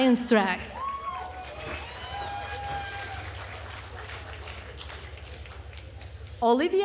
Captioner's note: attendees cheering and applauding